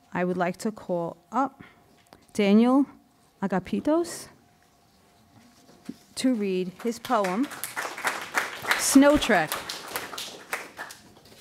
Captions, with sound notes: I would like to call up Daniel Agapitos, to read his poem, (audience applauding) Snow Trek.